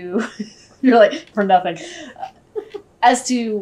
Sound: laughter

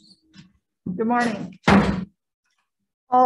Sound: gavel banging

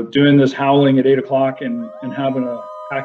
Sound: coyotes howling

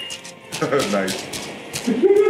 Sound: laugh

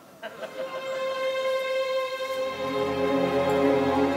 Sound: audience laughs

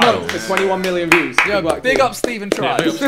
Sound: group applauding

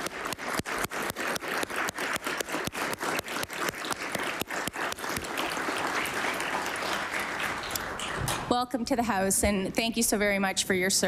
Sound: applause

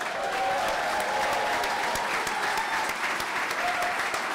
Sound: clapping

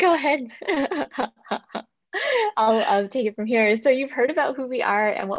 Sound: laughs

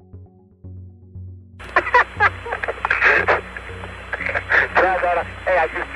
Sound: laughing

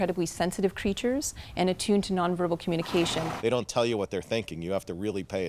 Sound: horse neigh

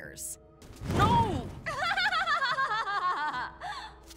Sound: Azula laughing

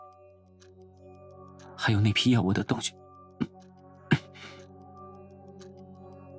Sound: coughs

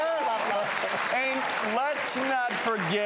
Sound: cheering

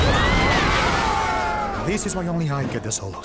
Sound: screaming

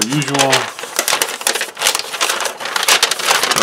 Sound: paper crinkles

